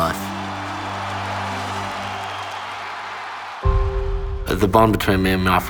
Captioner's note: crowd cheering